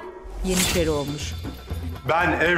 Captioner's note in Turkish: Kılıç sesi